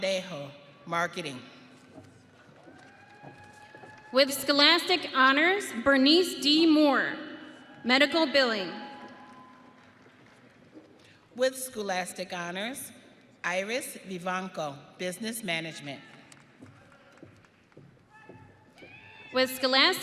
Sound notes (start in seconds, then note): 2.6 audience cheering; 10.6 audience cheering; 18.4 audience applauding